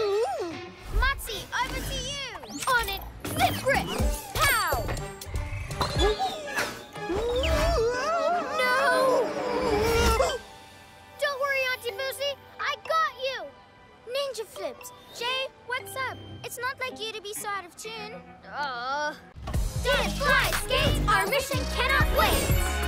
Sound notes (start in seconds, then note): 18.3 groans